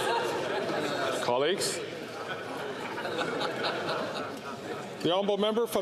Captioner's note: chatter; laughter